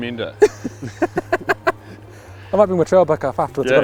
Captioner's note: laughs